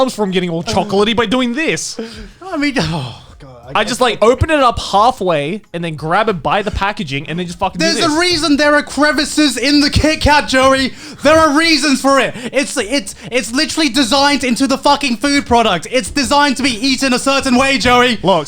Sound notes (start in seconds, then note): 1.9 sighs